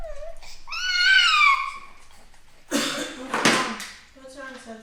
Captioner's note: baby screams